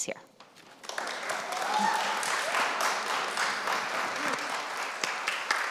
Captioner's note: applause, cheers